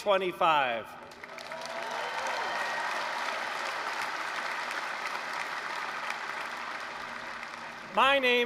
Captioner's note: applause, cheering